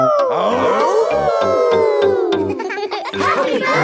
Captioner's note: all howling; howling